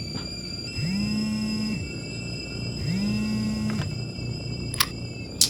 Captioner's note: phone vibrates